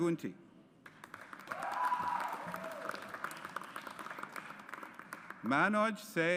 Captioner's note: audience applauds